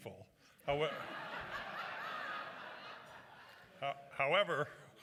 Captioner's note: laughter